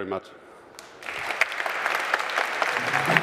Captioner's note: applause